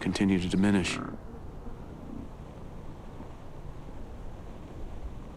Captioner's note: buffalo grunting